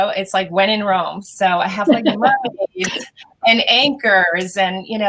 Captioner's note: murmurs